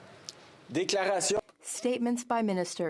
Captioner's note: speaking in French